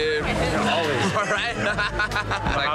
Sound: laughter

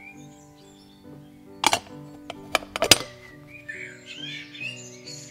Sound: lid clinks shut

